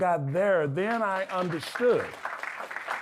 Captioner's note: audience clapping